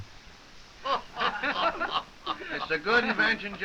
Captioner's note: soldiers laughing